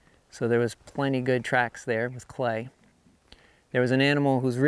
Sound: none

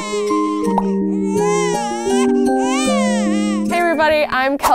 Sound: babies crying; optimistic music

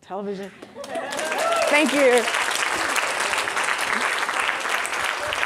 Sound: audience applauding

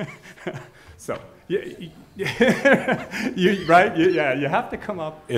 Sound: laughing

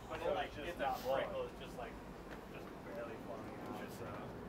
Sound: people chattering

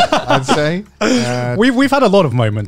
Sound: laugh

